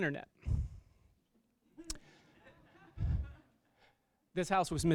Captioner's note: laughter